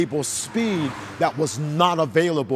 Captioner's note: engine roars